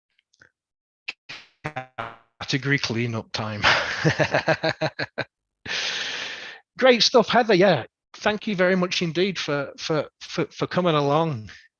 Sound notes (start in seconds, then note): 3.6 laughs